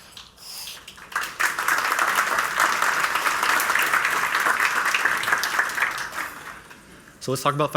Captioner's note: applause